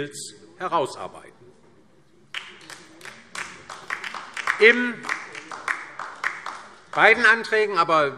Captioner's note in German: Beifall DIE LINKE